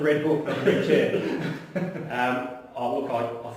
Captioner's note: laughs